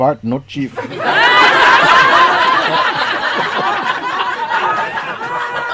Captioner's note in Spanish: Risas